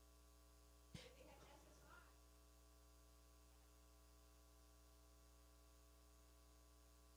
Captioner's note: speaking away from mic